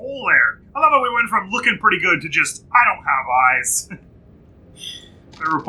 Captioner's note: chuckles